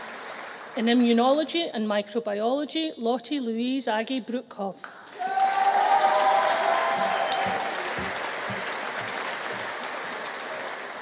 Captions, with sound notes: In Immunology and Microbiology, Lotte Louise Aagje Broekhoff. (AUDIENCE APPLAUDING) (AUDIENCE CHEERING)